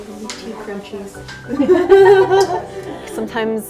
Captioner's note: ambient music; laughing